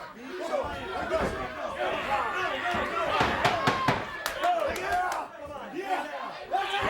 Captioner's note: hands thudding; wrestlers grunting; crowd clamoring